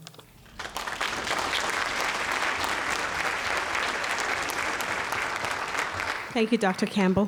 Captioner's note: audience applauds